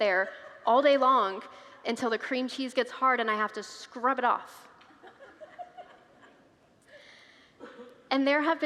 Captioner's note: congregants laugh